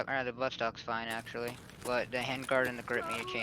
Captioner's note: humming from chat